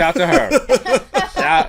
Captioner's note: laughter